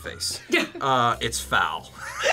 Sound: both laugh; laughs

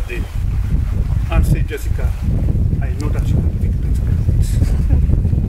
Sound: wind blowing loudly

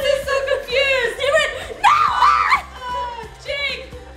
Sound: screams

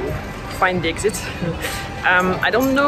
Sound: chuckles

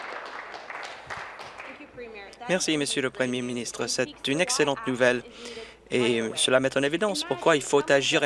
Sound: applause

